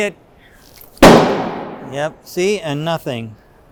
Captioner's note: hammer bangs